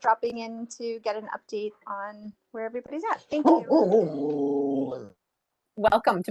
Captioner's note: dog growls